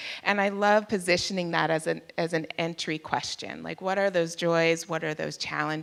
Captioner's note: none